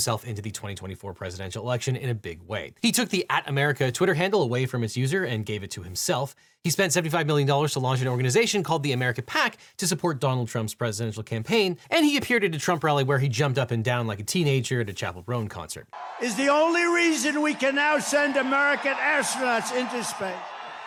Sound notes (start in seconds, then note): 15.9 people cheering